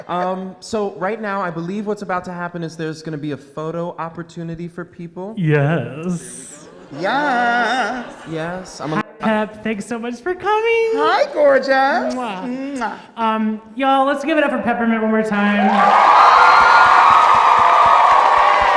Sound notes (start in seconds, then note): 12.2 kiss smacks; 15.4 crowd cheering